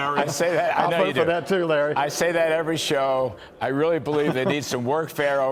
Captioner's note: laughter